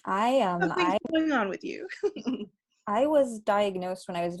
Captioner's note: chuckling